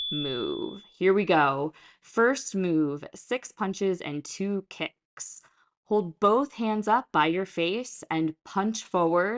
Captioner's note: chime